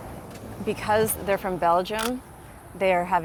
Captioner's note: camera clicks